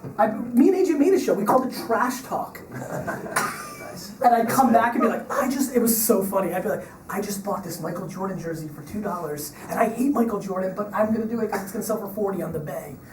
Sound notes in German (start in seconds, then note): 2.7 Lachen; 3.9 Voice-over